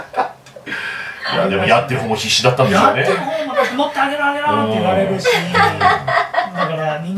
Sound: laughs

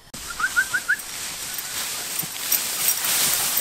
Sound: whistles for Blake

